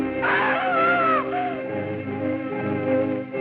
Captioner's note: screaming